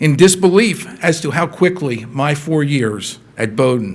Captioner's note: none